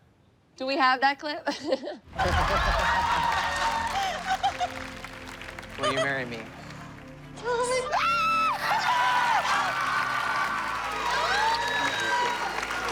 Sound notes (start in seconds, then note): 2.1 audience cheering; 3.4 laughing; 7.8 cheering